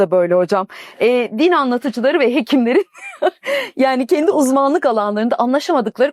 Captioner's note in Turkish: kahkaha